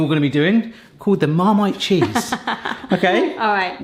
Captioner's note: laughs